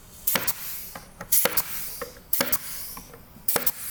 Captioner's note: stapler thudding